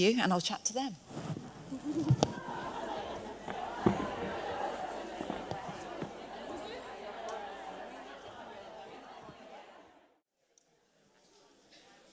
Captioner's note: audience chatter